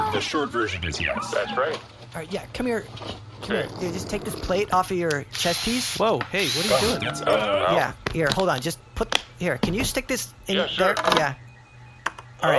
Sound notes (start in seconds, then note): 6.4 noise of drill; 12.4 Click of something being inserted into AJ’s armor